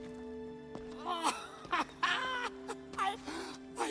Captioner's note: laughs